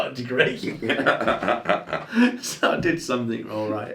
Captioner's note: laughing